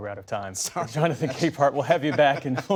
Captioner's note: laughter